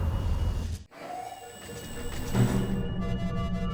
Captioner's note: alarm sounding